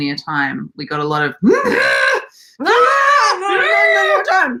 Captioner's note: screaming